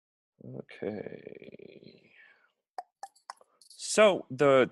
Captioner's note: clicks tongue